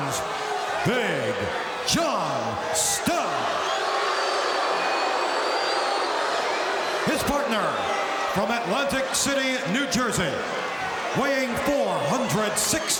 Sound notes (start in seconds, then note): 3.4 audience shouting